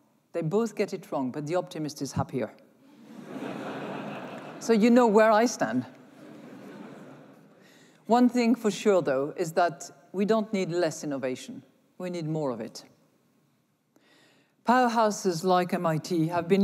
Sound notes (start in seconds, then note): 2.9 laughter